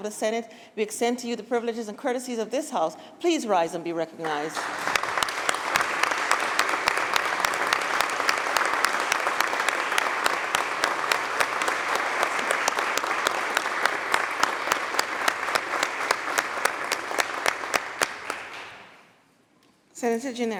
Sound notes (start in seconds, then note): 4.2 applause